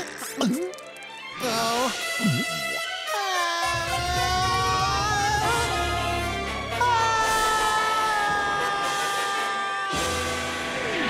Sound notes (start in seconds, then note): 3.2 groaning; 6.7 screaming